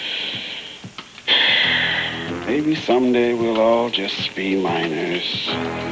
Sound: sighs

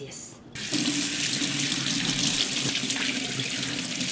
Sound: running water

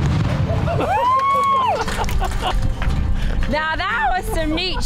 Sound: gun shot; screaming and clapping

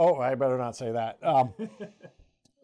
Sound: laughs

